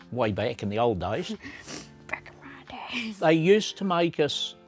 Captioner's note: giggles